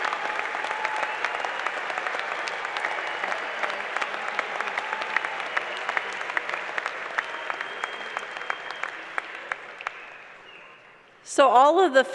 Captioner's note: applause